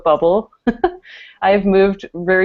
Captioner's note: laughter